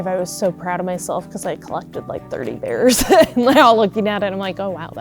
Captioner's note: laughs